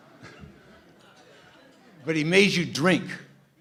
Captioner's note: laughter